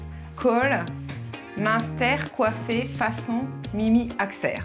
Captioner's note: speaks french